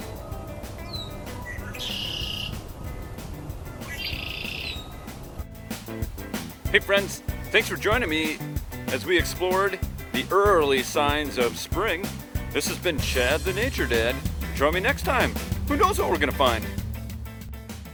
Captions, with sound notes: [Red-winged Blackbird calls] [Red-winged Blackbird calls] Hey, friends, thanks for joining me as we explored the early signs of spring. This has been Chad the Nature Dad. Join me next time. Who knows what we're going to find!